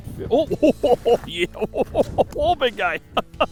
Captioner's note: laughing